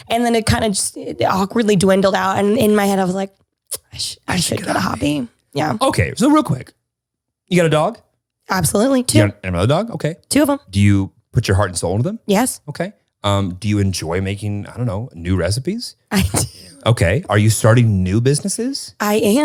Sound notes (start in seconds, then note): 16.2 laughs